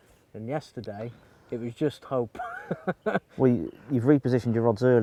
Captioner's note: laughs